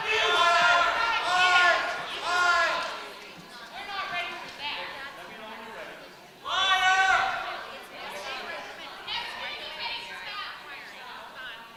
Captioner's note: crowd shouting